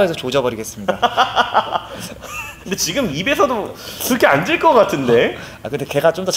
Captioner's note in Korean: 웃음